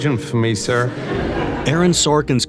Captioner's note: laughs